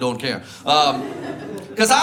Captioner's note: audience laughs